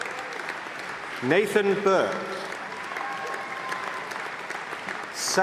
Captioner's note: applause